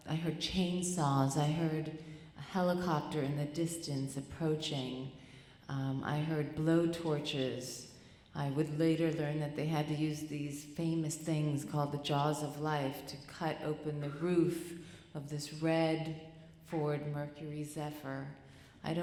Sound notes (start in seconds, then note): none